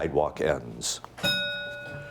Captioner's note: bell ringing